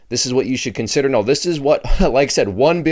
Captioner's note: laughs